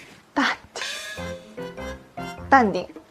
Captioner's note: self-soothing